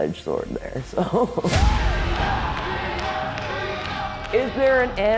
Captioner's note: fans chanting “ ”